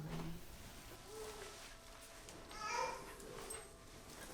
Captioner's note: baby babbling